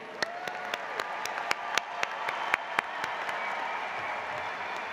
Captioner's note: applause